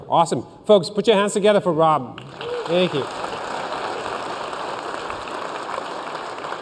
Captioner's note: applause